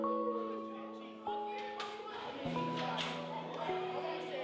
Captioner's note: students chatter